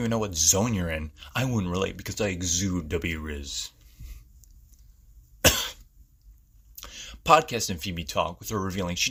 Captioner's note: cough sound effect